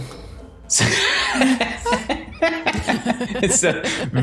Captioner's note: laughter